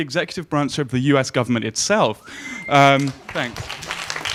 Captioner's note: audience clapping